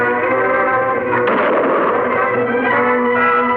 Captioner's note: gunshot fires